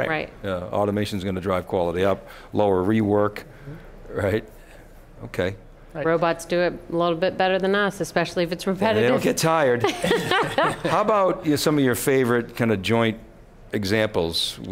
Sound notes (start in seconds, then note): 9.8 laughing